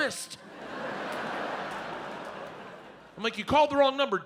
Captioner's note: audience laughs